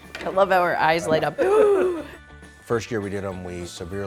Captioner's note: upbeat music; laughing; gasping